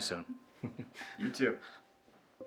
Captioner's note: Tucker chuckles